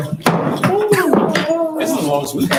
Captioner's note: board member whoops softly; gavel strikes loudly